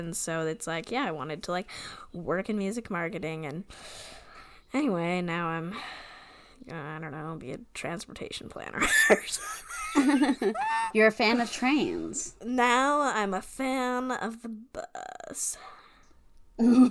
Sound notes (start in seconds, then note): 9.3 laughs